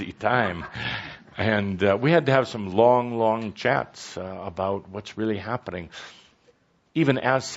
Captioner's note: some laughter